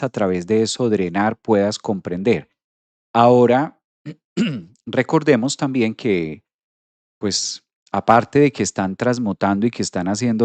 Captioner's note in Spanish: carraspeo